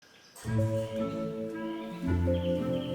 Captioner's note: birds twittering; playful music